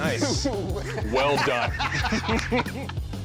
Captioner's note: laughter